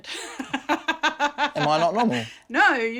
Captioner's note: she laughs